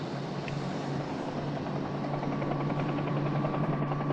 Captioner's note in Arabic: هدير المروحية